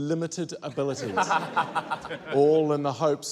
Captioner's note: laughter